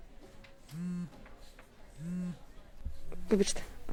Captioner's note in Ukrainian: вібрує мобільний телефон:"Срачка"